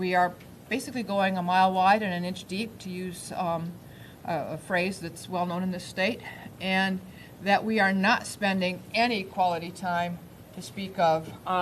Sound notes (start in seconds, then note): none